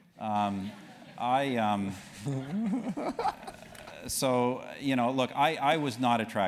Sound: laugh

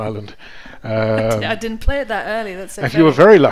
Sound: chuckles

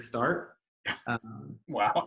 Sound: laughs

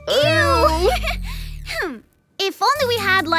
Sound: giggling

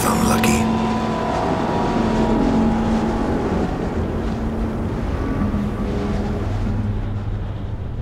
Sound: dust storm rages

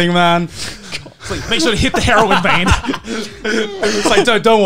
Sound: laughing

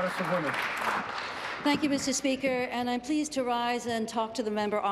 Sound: applause

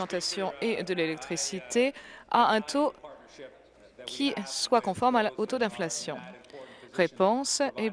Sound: applause

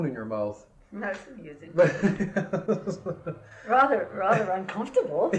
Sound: laughter

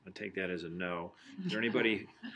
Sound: laughing

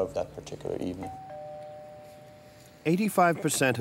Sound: door bell ringing

